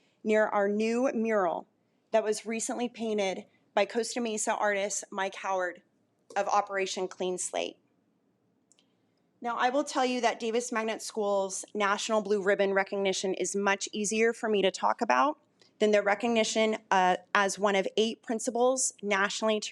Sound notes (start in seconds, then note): none